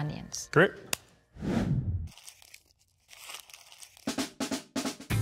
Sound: air whooshing

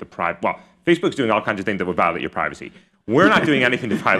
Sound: laughter

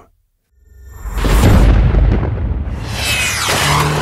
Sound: thunder clapping; engine accelerating

